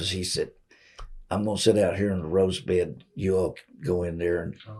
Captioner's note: laughs